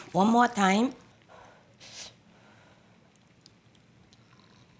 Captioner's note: blows air softly